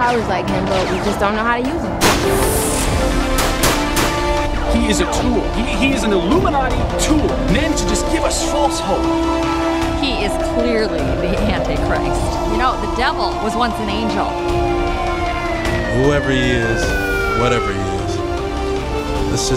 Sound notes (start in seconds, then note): 2.4 light dramatic music; 3.3 guns popping